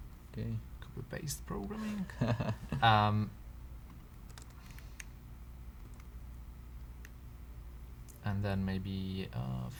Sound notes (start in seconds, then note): 2.7 laughs